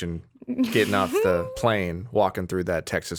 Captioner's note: chuckling